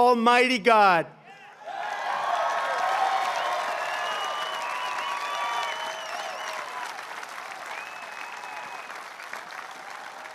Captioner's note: applause